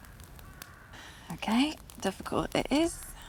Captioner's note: sighing